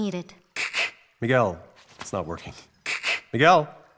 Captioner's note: hisses